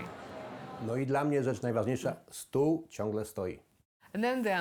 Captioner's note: speaking in foreign language